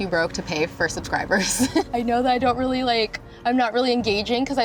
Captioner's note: giggles